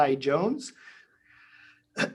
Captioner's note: clears throat